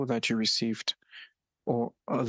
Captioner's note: speaking French